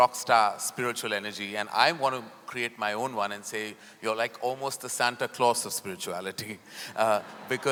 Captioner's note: laughter